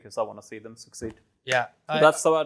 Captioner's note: claps